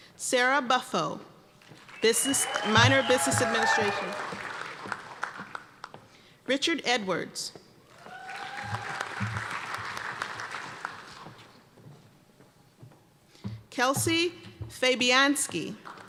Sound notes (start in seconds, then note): 4.0 applause; 7.9 cheers and applause; 15.8 applause